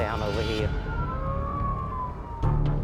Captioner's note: ambulance sirens